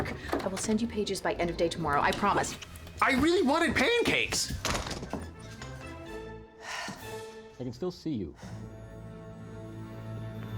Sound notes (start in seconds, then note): 4.5 slams door shut; 6.6 sighs